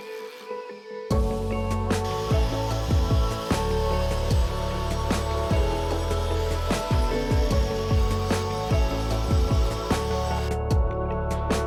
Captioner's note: drilling